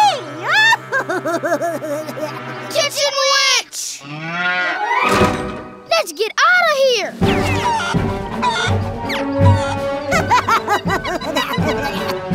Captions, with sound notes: [laughing] Kitchen witch! [mooing] Let's get out of here! [clucking] [laughing]